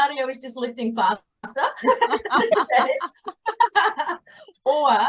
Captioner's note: everyone is laughing